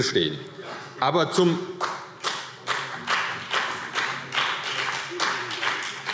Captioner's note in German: Beifall CDU und BÜNDNIS 90/DIE GRÜNEN